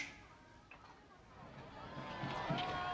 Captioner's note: people shouting